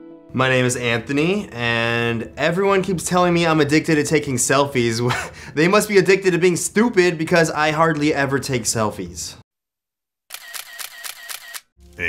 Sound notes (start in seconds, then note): 5.1 scoffs; 10.3 camera snaps